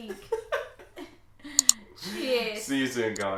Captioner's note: laughs